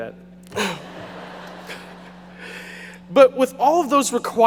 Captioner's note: audience laughing